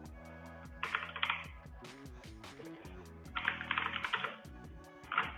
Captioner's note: keyboard clicking